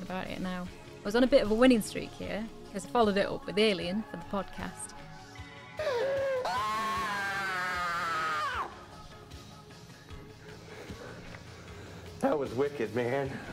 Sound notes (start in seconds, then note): 5.8 screaming